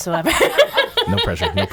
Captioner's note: laughing